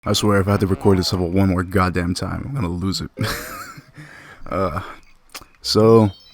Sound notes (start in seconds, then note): 3.1 laughs